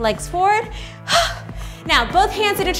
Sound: breathes

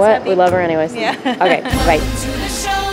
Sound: laughing

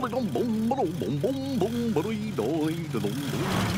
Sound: humming

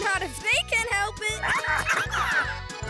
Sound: giggling

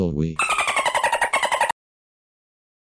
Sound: dolphin noises

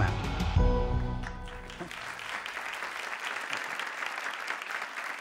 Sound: audience applauds

